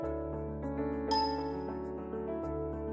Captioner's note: dings